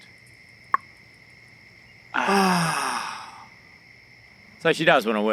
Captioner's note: beer cap popping; men sighing